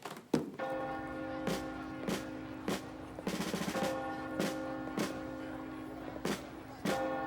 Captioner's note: bells chiming; military drumming